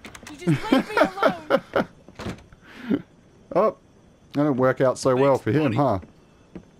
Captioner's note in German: Lachen